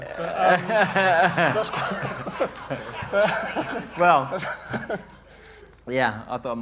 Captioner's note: laughter